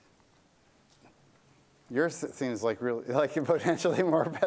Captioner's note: laughter